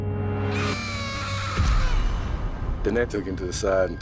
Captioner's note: screams